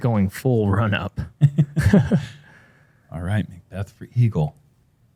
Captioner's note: laughter